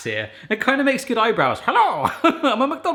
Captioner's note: laughs